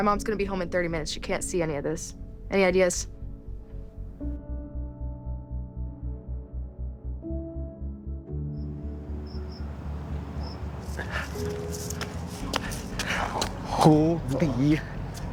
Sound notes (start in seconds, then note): 8.6 crickets chirping; 9.2 gentle music; 10.8 footsteps thumping